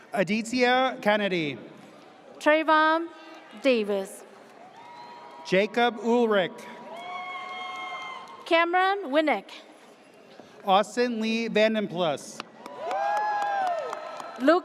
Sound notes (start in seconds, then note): 6.8 audience cheers; 12.6 audience cheers